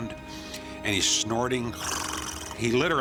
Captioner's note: snorts